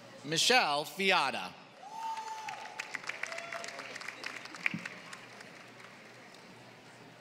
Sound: applause

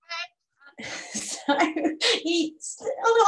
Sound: laughs

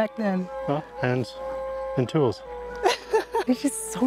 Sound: laughs

